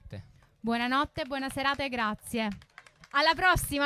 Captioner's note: applause